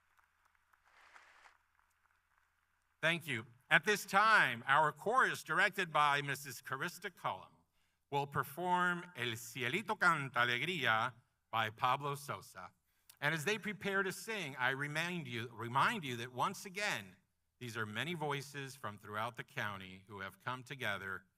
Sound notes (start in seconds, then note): 4.0 applause